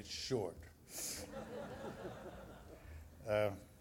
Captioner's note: laughing